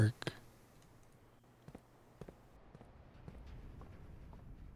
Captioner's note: footsteps